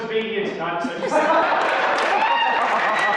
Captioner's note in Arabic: الحشد يهتف بصوت عالٍ; تصفيق وهتاف